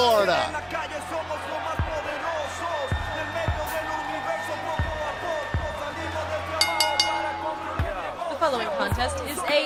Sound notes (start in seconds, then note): 1.5 crowd cheering; 6.6 bell ringing